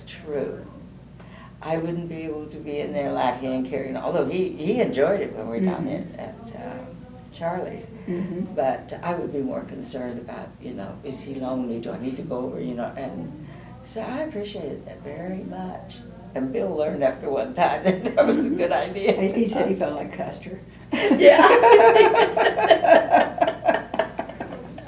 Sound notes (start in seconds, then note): 20.9 laughter